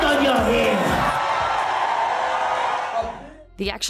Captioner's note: audience cheering